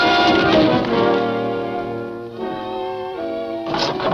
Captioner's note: man thuds